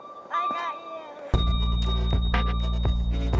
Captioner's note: time freeze noise